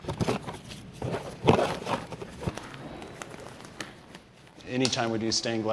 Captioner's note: gloves stretching and popping